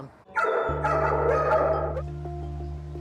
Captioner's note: dogs barking